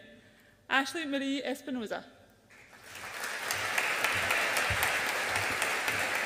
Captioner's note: audience applauds